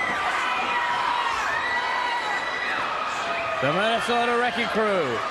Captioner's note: crowd cheering